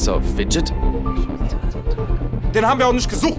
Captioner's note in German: Geflüster / Beraten